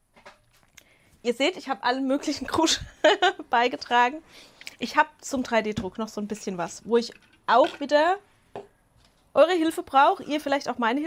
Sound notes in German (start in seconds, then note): 2.8 Gelächter